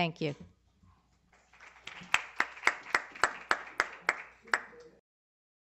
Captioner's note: applause